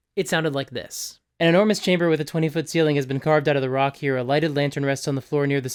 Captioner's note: fast and monotone